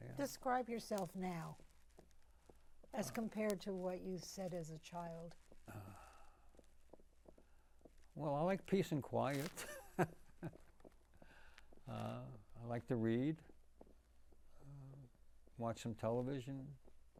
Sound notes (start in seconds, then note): 9.9 laughing